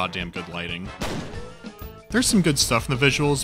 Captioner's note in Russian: бах